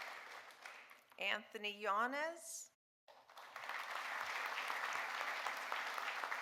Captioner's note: audience applauding